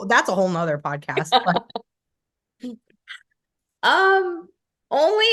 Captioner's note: laughing